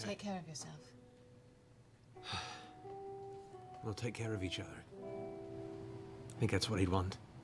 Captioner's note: deep breath